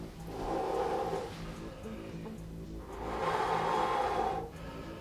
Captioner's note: Dan breathing loudly